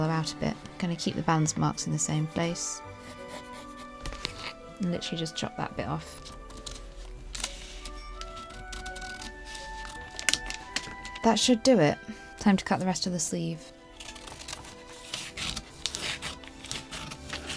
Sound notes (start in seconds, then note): 3.5 pencil noises; 5.5 scissors snip; 13.5 scissors snipping and paper rustling